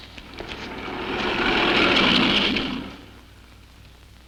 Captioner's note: car rumbling